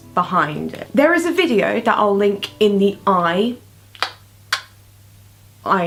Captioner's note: tongue clicks in confusion